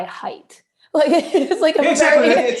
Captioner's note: laughter